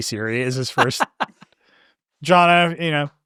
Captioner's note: laughing